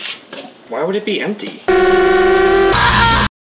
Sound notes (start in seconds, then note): 1.7 drone whirs; 2.7 man screams